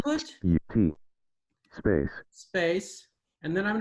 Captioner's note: automated voice